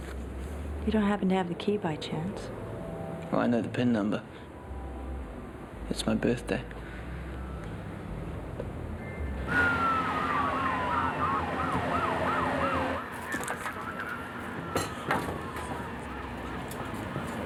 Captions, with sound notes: - You don't happen to have a key by chance. - Well I know the pin number. It's my birthday. (police siren blares)